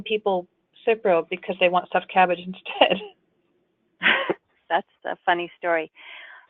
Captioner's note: laughing